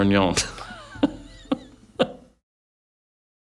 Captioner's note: laughter